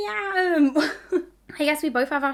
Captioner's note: laughing